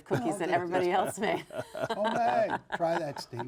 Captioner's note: giggles